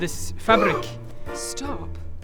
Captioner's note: awestruck gasp